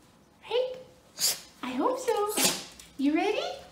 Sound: sneeze

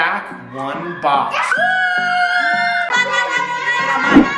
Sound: cheers

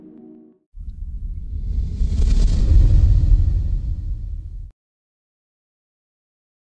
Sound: dramatic white noise swelling and subsiding

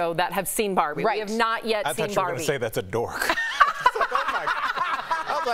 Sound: laughter

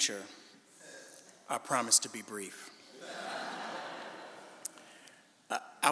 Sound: audience laughing

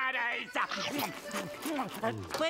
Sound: munching

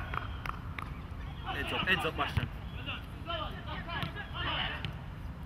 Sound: players shouting

